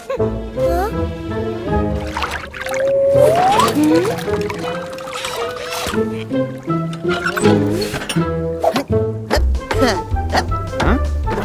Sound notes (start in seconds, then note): 1.3 sound of water